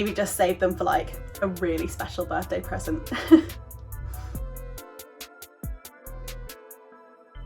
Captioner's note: laughs